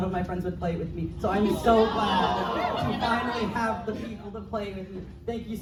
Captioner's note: crowd awws